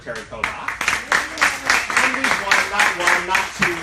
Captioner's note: applause